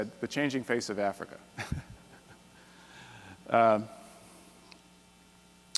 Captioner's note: chuckles